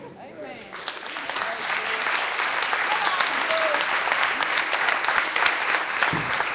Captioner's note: clapping